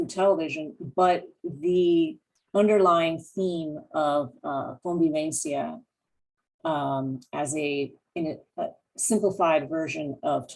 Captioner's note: spanish